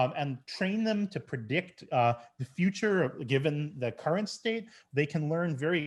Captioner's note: none